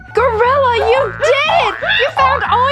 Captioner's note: exciting gorilla sounds